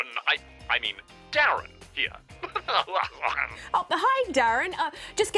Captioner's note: chuckles